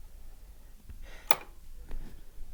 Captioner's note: click